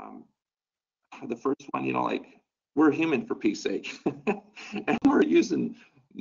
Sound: laughs

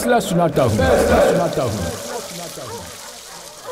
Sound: voice echoing

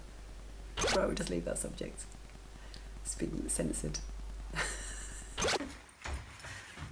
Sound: laughs

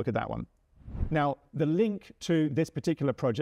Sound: screen whooshes

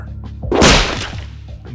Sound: mega-epic-male-slap

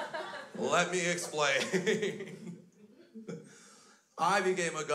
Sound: crowd laughs; laughs

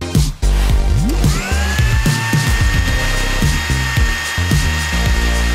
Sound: blender whirring

